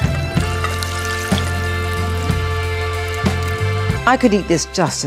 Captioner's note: dramatic music; water splattering